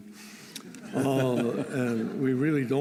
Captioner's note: laughter